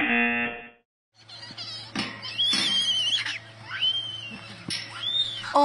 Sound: girl screaming

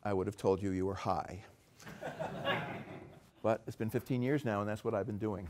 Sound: laugh

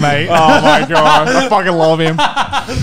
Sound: men laughing

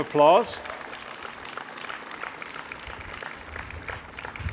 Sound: audience applauding

